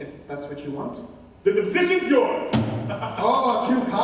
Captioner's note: chuckles